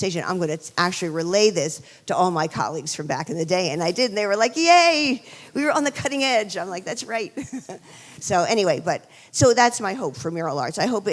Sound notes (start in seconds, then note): 7.3 chuckles